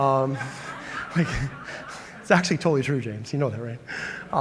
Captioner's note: laughter